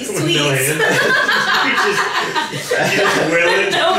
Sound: laughing

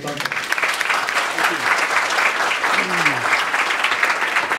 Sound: audience applauds

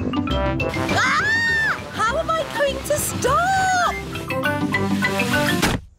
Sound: shrieks

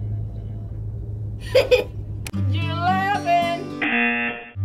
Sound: laughs; buzzer rings

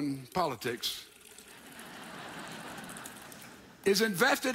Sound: audience applauds

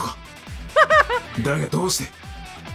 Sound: chuckles

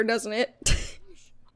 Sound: laughs

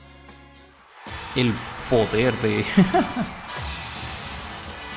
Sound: laughs in unnecessary pause

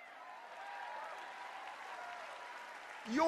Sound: cheers

